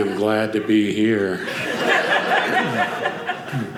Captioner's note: audience laughing